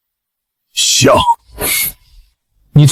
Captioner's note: laughs